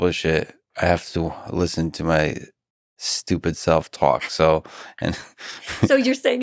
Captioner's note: laughs